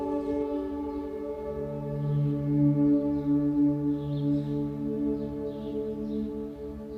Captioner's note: birds chirping; light gentle relaxing music